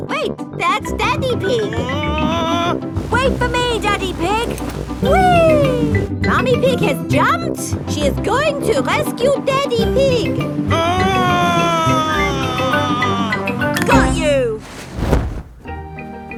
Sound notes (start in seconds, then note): 1.5 screaming; 10.7 screaming